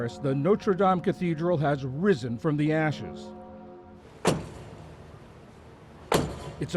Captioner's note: bells